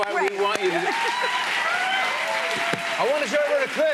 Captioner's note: cheers and applause